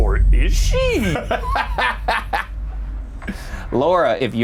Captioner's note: laughing